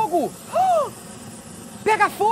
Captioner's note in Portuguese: faz som de surpresa